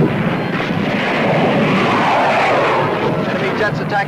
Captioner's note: plane engines roaring; planes whooshing